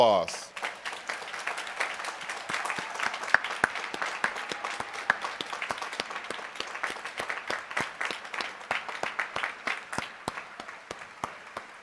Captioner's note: applause